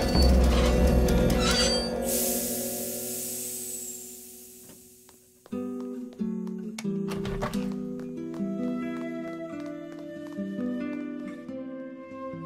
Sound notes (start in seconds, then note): 1.8 train engine hisses; 7.0 door opens; 8.4 soft flute music